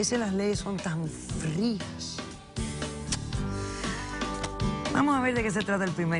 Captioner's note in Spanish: Chasquido de labios